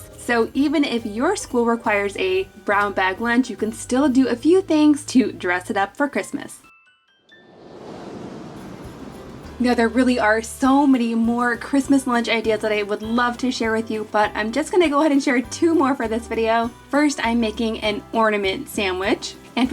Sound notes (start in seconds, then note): 7.4 wind whooshing